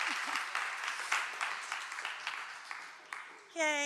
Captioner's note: cheering and applause